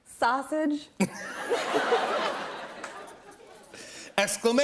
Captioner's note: laughter